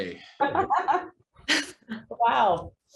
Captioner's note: laughs